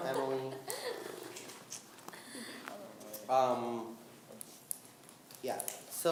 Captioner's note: laughing